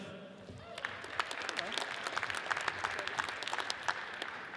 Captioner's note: audience applauds